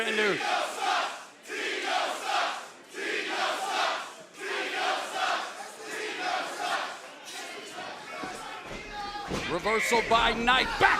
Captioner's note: crowd cheering